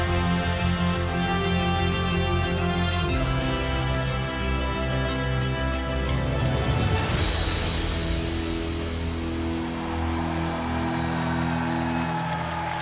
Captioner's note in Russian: аплодисменты